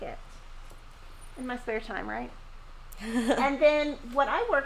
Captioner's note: laughing